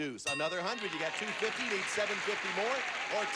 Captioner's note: audience applauding